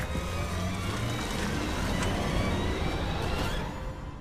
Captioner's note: engine revs